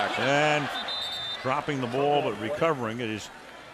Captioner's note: whistle